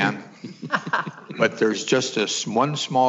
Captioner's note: laughing